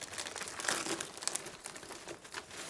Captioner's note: rustling